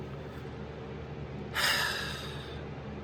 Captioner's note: sighs